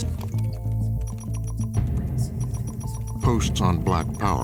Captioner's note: phone chimes